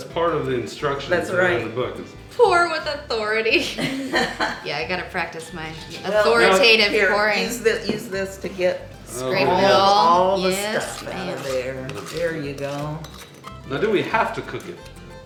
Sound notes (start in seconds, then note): 3.6 laughing